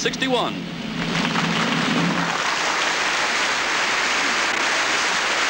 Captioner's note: crowd applauds